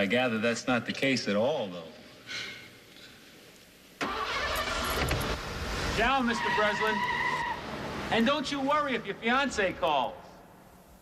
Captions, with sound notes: I thought maybe you were hBut I gather that's not automothe case at all, though. (STARTS CAR) wn, Mr. Breslin. And don't you worry if your fiancee calls.